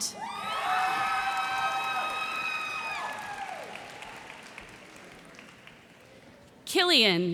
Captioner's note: cheers and applause